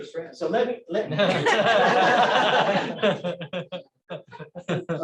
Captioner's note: laughter